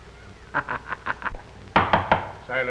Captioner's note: laughing; gavel banging